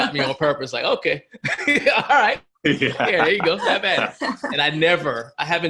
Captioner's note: laughs